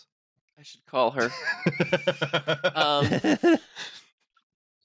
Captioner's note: laughs